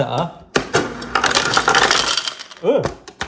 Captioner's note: ice clattering